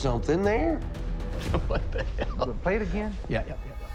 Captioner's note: chuckling